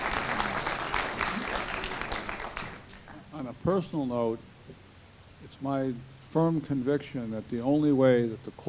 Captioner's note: applause